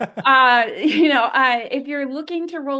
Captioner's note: laughter